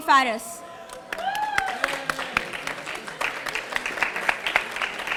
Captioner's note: audience applauding